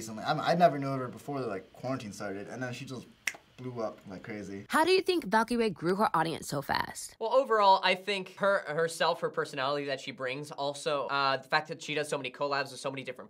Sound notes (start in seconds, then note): 3.4 snaps